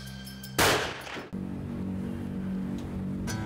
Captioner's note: gunshot